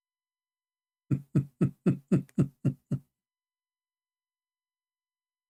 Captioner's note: Ketawa